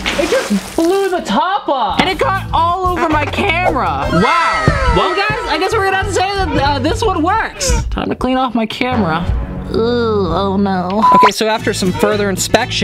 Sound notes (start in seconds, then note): 0.0 smacking noise; 0.0 soda fizzes; 9.0 dramatic music; 9.0 sigh